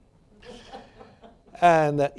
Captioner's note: laughter